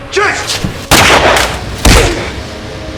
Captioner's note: gun blasting; foot slamming